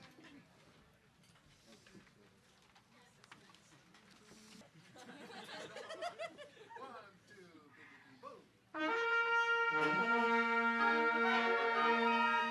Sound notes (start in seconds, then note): 4.8 people laugh; 8.8 lively orchestral music